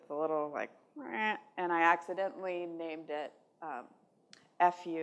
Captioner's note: none